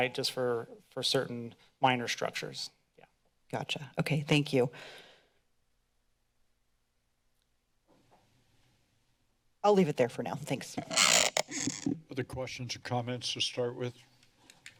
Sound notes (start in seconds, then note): 5.8 silence; 10.8 mic noise